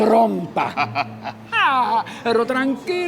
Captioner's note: laughs